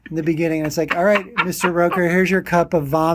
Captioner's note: laughing